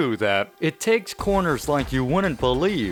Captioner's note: quote being read aloud